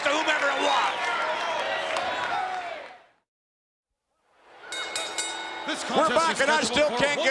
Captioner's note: applause